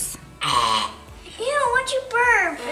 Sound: burping sound

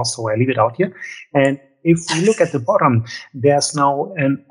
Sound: laughs

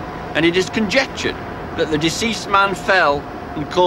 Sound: none

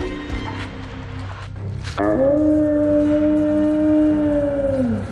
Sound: howl

